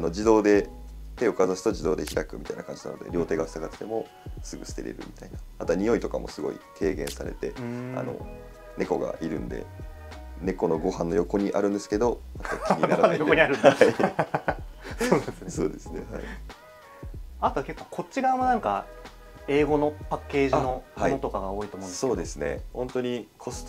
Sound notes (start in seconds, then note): 15.9 laughs